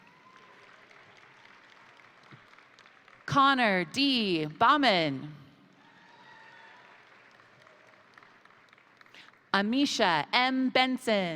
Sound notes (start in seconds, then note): 0.0 crowd cheering; 0.0 crowd applauding; 5.6 crowd applauding; 5.7 crowd cheering